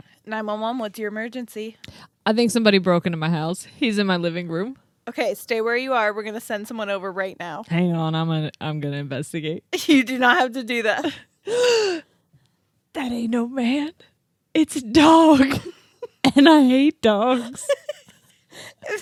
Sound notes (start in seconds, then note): 11.4 gasps; 15.4 snickers; 17.5 snicker